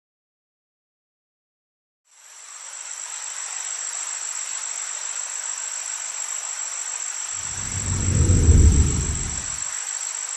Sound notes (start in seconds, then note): 2.3 crickets chirping; 2.3 water running; 7.4 swooshing